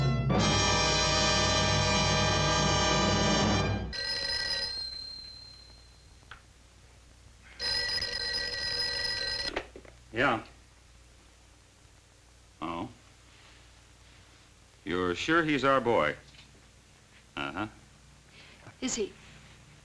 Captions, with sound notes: (phone ringing) - Yeah? Oh? You're sure he's our boy? Uh-huh. - Is he?